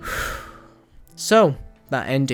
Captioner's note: inhale; exhale